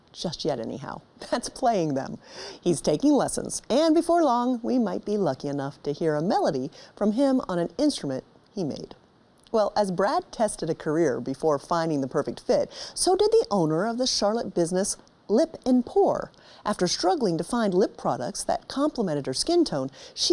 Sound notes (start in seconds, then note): none